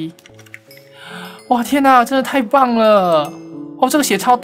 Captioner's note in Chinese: 吸氣